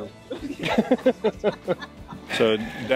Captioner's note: everyone laughing